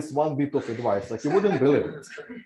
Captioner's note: laughter